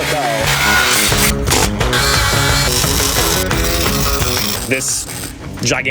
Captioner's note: rock music; tools buzzing